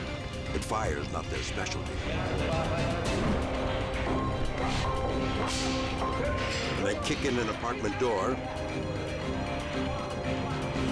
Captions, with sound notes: But fire's not their specialty. (extinguisher sprays) When they kick in an apartment door,